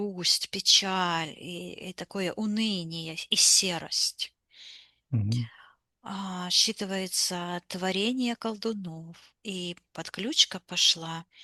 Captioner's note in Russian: вздыхает